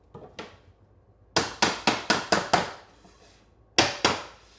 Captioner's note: hammer pounding